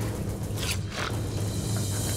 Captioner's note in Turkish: Bıçak sesi